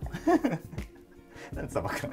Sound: laughing

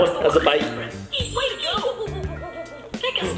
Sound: monkey hooting

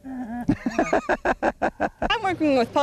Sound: laughter

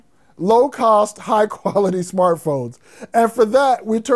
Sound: chuckles

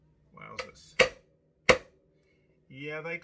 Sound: banging nuts

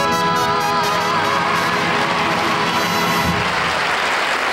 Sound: audience applauds

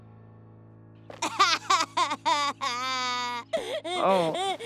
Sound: crying

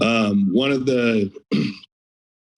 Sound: clears throat

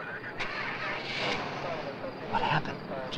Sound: car engine revving

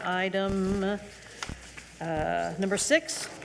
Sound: papers rustling

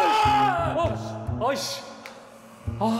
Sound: screaming

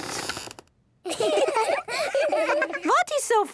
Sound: squeaks; laughing

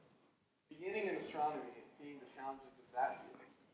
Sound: voiceover

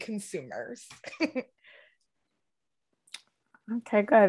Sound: chuckles

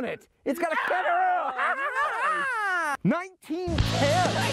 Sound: both cheer

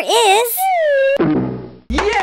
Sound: bonk

